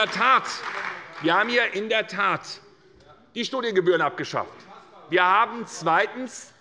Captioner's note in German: Zurufe von der CDU